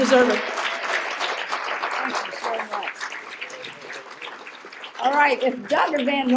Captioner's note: applause